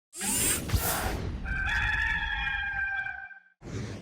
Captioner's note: chyron swooshing